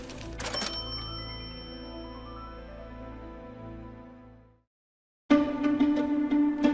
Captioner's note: registry ringing; dramatic music continues; suspenseful music